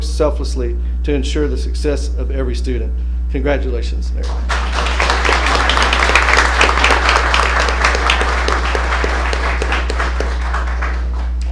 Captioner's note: applause